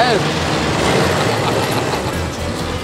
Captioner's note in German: Motorengeräusch